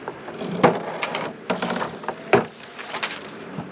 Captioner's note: bin scraping; trash scattering